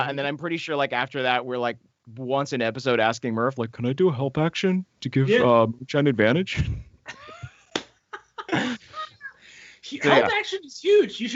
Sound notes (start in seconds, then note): 8.0 all laughing